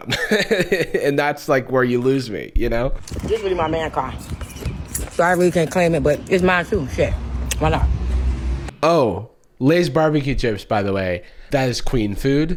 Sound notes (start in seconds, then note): 0.0 laughs; 4.3 loudly eats chips